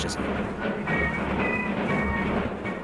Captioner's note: parade noise